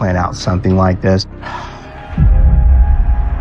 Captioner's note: sighshs